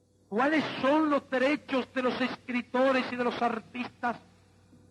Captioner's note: speaking Spanish